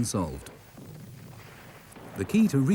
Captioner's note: cannon booms